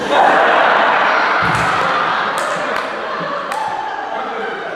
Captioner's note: audience laughing